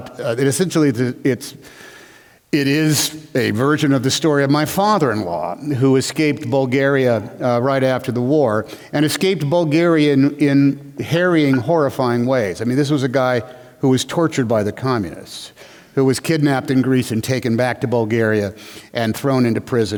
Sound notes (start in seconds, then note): none